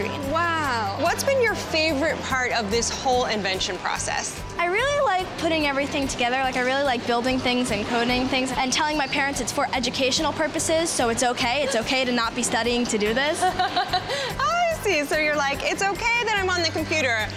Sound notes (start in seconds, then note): 13.4 laughs loudly